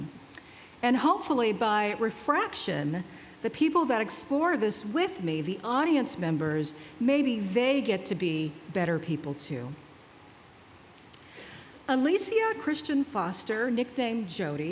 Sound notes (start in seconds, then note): none